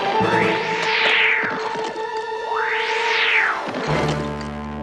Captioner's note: whoosh!